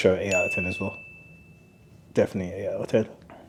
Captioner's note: bell dings